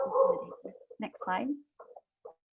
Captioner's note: dogs barking